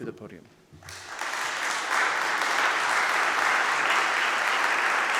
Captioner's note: audience applauding